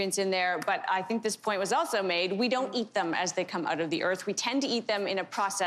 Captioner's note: none